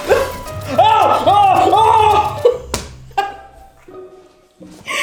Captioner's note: laughing; screaming